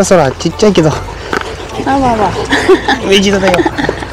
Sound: laughs

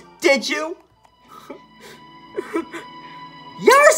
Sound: Link sobbing

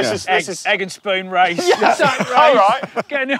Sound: laugh

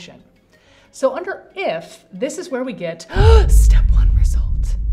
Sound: gasp

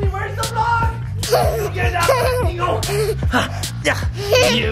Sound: laughing

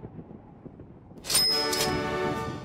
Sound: cash register ding

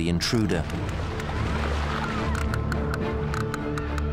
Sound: whales clicking rapidly

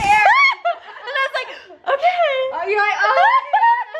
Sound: gasps

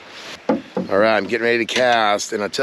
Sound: shuffling

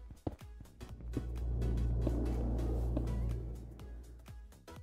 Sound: eerie noises

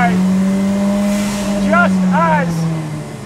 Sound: car engine roars

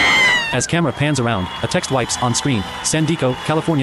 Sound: demors and applause

